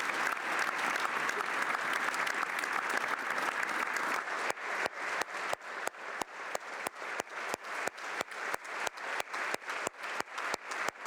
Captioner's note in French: applaudissements